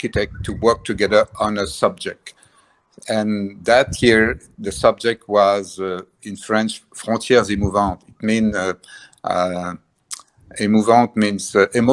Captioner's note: says it in French